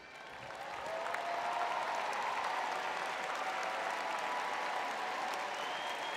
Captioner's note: audience cheering